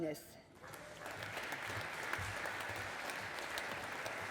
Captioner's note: audience applauding